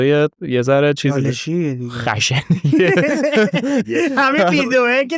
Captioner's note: laughs